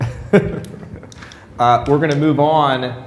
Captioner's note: laughter